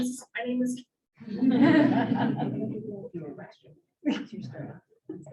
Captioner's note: audience laughing